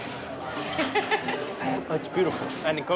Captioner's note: laughing